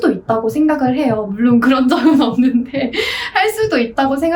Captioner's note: haha